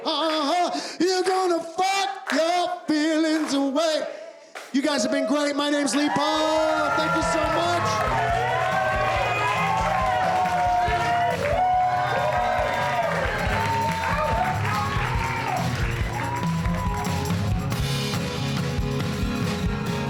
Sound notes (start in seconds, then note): 8.4 cheers and applause; 15.9 upbeat music